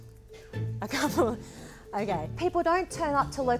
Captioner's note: laughs